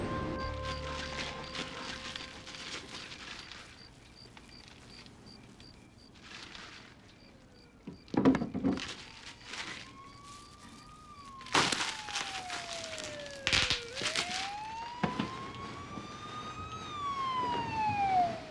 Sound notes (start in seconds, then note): 0.1 rustling; 10.9 siren wails in distance; 11.4 popping